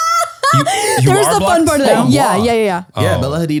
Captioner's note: laughs